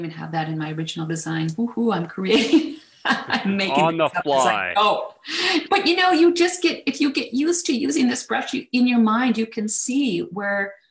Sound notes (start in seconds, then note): 3.0 chuckles; 3.0 laughs